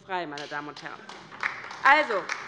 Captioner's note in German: Beifall bei der LINKEN